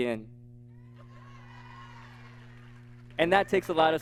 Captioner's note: audience laughing